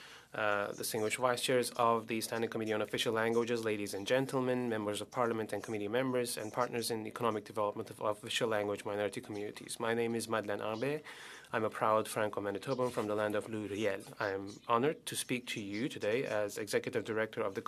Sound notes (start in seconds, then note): 14.2 speaking Alternate Language